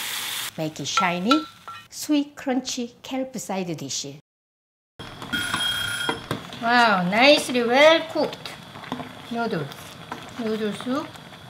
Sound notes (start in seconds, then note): 5.3 timer ringing